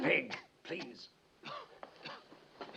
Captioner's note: len coughing